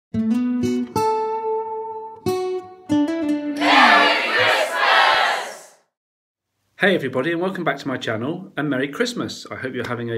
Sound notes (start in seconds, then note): 0.1 acoustic guitar intro music; 3.6 crowd shouting